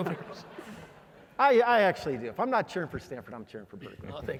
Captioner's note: laugh